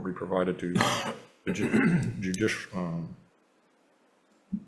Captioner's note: person coughing